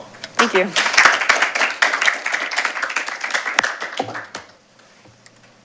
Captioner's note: applause